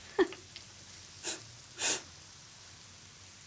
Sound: sniffs

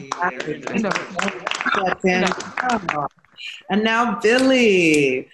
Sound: group clapping

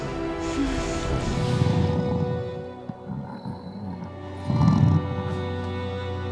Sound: grunting

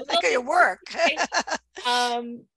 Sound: laughs

